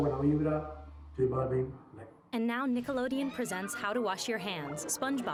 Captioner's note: \repeating in spanish\; \repeating and concluding in \spanish\